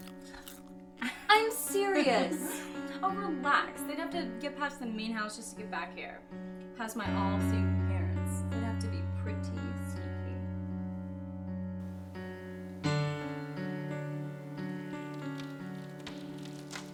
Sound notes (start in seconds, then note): 0.0 Becca crunches popcorn; 12.2 Becca crunches popcorn; 13.7 mysterious music